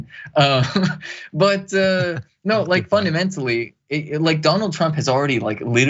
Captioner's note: laugh